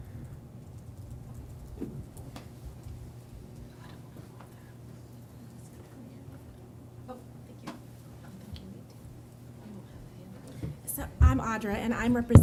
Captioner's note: background chatter